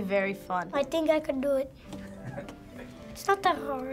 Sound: Finebros chuckle

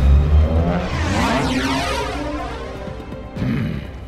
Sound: vyyrrrrrrr

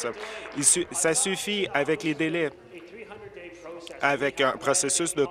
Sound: applause

